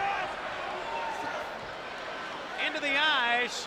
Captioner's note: spectators cheering